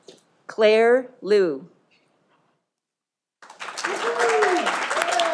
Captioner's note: audience applauding